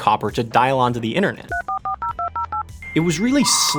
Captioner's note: dial tones pulsing